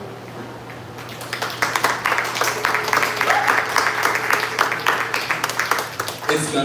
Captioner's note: applause